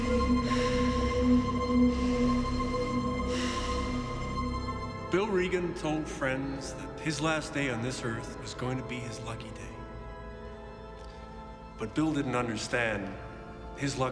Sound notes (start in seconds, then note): 0.1 Sandra sighs